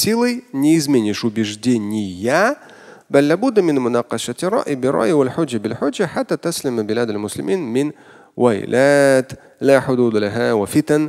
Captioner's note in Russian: Говорит на арабском; Говорит на арабском